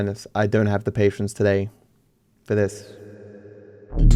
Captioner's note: voice echoes